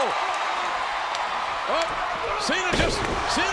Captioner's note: crowd cheering